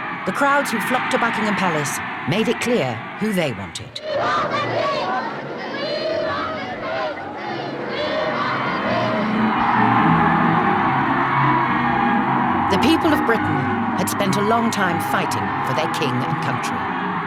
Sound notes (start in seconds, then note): 4.6 crowd; 10.2 crowd cheers